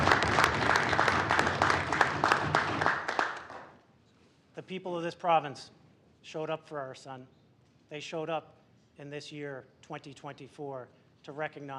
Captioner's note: applause